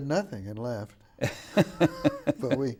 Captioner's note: laughing